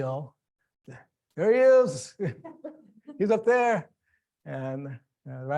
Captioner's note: laughing